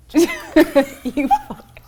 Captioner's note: laughing